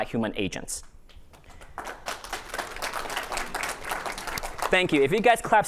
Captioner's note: applause